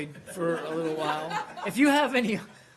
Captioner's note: laughter